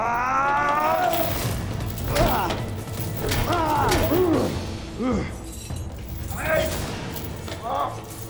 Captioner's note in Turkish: Dövüş sesleri